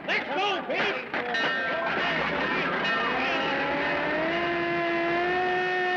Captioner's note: bell Clanging, Siren